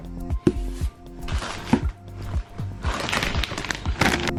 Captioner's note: plastic rustles